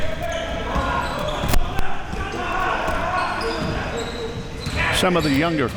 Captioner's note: audience chattering and yelling